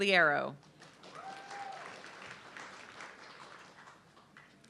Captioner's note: audience clapping